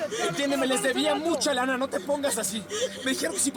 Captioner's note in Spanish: sollozos